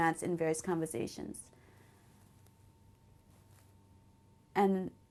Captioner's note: pauses for 3 seconds